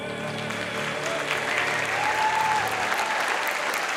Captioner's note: cheers and applause